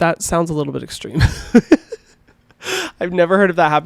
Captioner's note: laughing